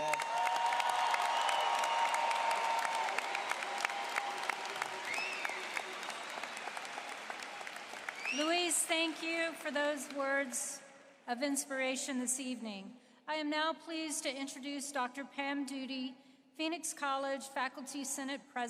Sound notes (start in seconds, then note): 3.7 applause